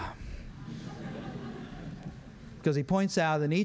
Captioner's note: laughter